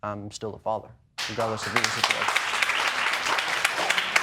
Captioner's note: audience applauding